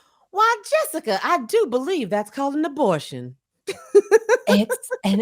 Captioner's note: laughs